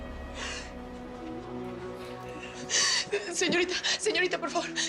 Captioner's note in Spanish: Sollozos